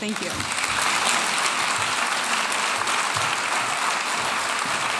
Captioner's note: audience applauding